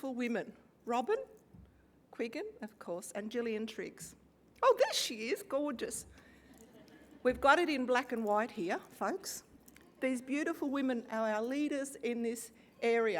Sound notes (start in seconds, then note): 6.6 laugh